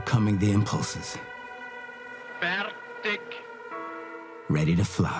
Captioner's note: speaking in German